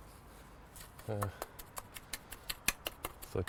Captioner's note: tapping trowel